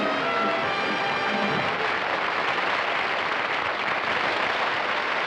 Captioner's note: applause